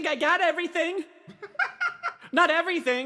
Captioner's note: laughs